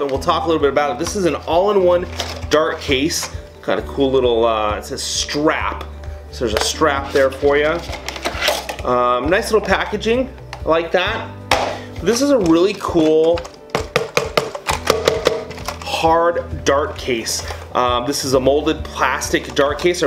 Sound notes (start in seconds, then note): 11.2 upbeat music; 13.7 banging